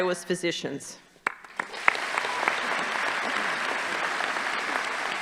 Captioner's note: audience applauding